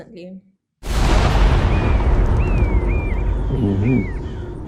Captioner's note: gun shot